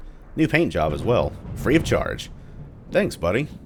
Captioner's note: thunder